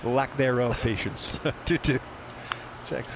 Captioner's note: laughter